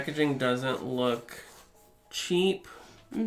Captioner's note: scratches